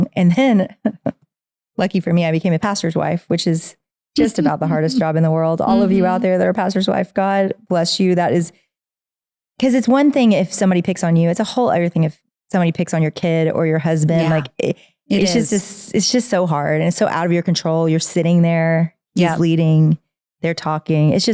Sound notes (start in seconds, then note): 0.6 laughs; 4.2 chuckling